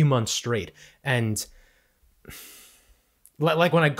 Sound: sighs

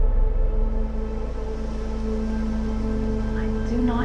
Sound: calm wind

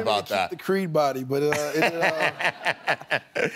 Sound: laughs

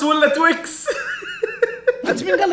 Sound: laughing

